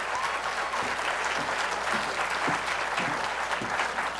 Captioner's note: applause